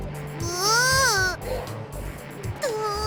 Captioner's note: angry groan